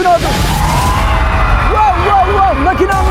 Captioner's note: scream